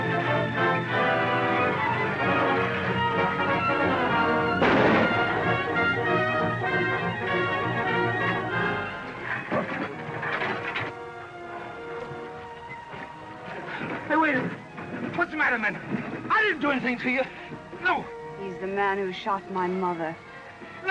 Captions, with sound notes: [GUNSHOT] Hey, wait a minute. What's the matter, men? I didn't do anything to you. No! He's the man who shot my mother.